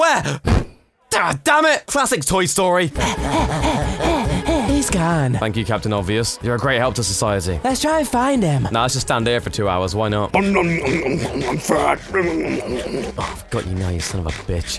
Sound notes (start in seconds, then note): 0.4 poof; 2.9 panting; 10.3 eating noise